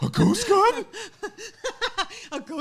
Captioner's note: laughing